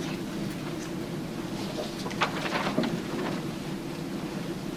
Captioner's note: none